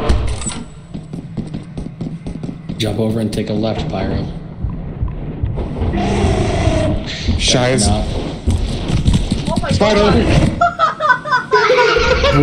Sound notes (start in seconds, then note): 0.0 door squeaks open; 0.7 quick footsteps on concrete; 4.5 wet thumping; 8.1 spider crawling; 8.1 wet thumping; 10.2 laughing